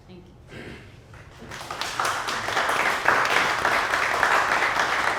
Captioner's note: audience clapping